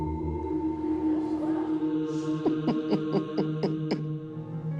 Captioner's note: laughs